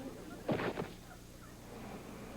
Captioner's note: thud